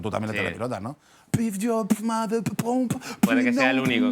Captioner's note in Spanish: hace beatbox